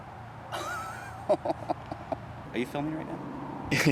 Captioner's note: Anubis chuckling